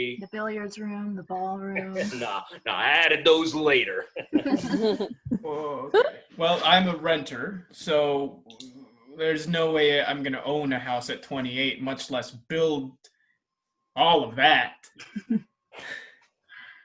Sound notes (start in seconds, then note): 3.6 ALL laugh; 15.2 HARPER laughs